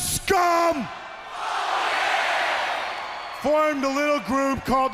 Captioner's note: crowd chatter